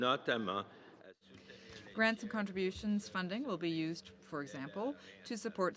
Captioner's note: speaking French